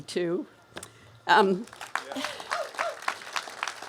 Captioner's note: cheers and applause